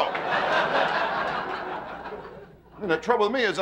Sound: audience laughing

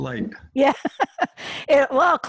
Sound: laughs

